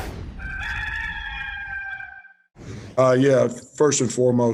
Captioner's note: rooster crowing